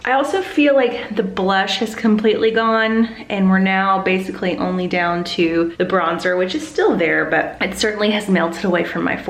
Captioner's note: none